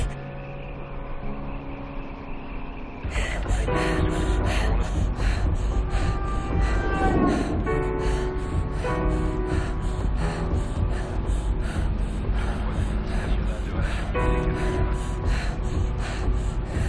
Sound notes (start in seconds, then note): 4.7 panting; 12.1 panting